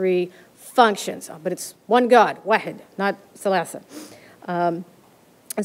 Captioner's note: arabic